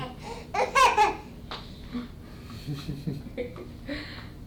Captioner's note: adults chuckling